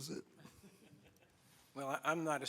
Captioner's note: laughing